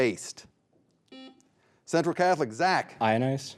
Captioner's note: buzzer buzzing